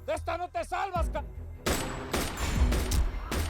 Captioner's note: Disparos